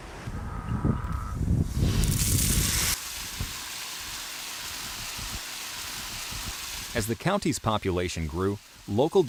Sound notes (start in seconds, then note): 1.8 water Sounds